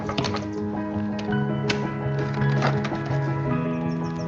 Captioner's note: clattering